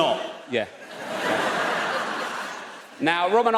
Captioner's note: audience laughs